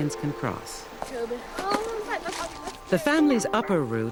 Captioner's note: chatting